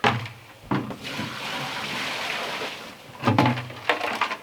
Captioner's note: water pouring